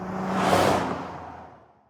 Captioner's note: whoosh